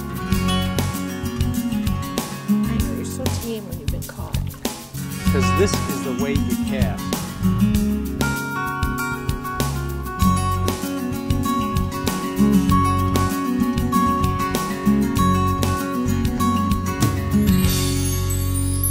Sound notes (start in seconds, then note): 3.0 woman's Voice; 8.9 uptempo music